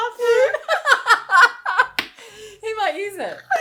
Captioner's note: laughing